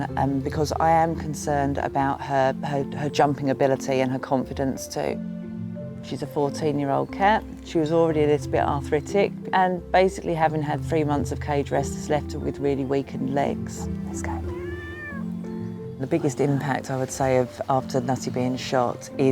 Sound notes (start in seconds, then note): 14.2 Nutty meows